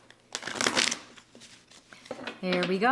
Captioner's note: cards shuffling